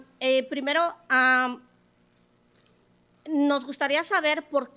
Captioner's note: speaking Spanish